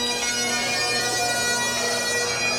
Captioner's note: none